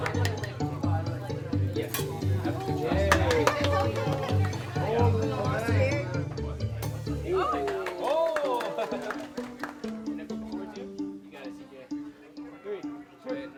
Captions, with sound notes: [sizzling sounds] Oh! (clapping) You got it, C.J.